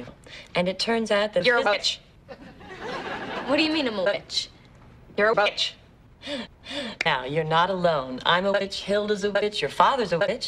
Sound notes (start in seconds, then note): 2.3 soft laugh track; 6.2 inhales twice